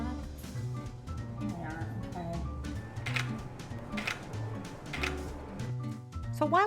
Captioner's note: camera clicks